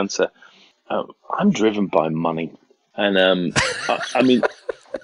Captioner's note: laughs